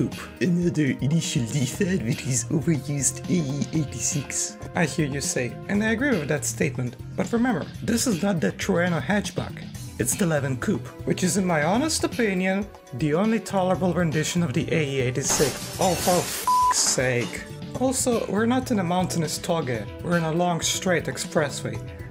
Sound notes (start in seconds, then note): 15.2 glass shatters